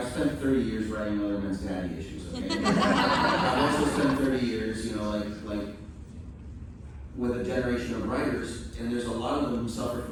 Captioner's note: laughter